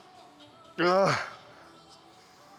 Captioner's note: grunts